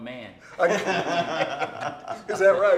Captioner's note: laughing